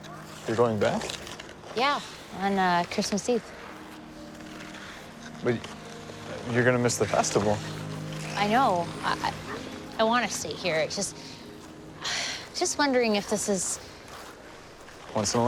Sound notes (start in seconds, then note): 11.1 sighs